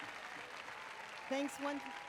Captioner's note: applause and cheers